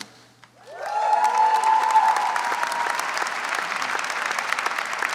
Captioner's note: audience cheers and applauds